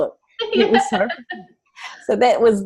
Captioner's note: laughs